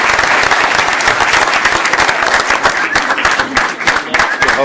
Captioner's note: applause